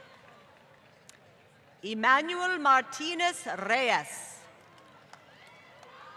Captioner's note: applause